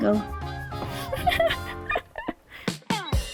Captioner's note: laugh